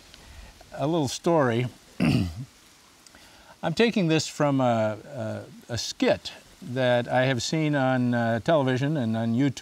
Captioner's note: clears throat